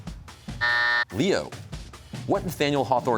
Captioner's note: buzzer sounds